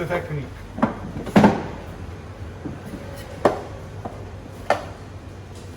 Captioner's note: plastic clanking